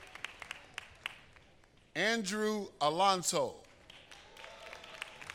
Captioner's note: applause